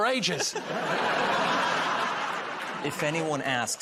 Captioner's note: laughter